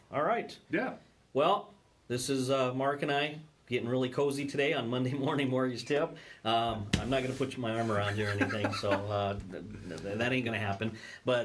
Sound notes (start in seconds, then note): 8.0 laughing